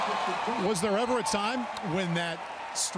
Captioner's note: cheering